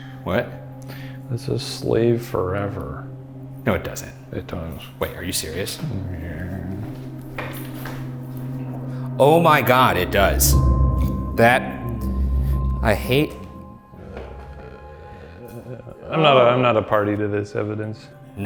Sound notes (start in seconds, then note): 13.4 groaning